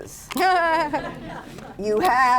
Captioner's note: laughter